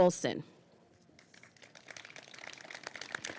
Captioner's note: applause